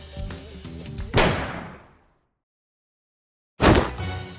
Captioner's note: bang!